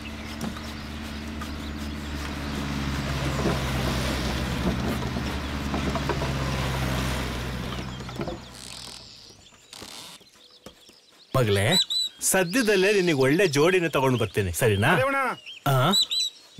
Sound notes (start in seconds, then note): 0.0 birds Sound; 0.0 wood Cutting sound; 8.1 walking Sound